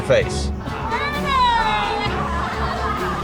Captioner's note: crowd still mocking